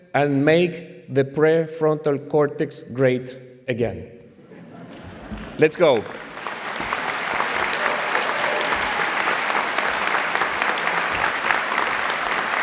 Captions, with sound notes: and make the prefrontal cortex great again. [LAUGHTER] Let's go. [APPLAUSE, CHEERING]